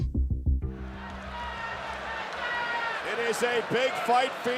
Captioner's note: audience shouting